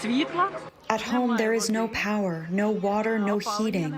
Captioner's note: through translator